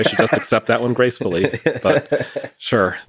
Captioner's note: Lex laughing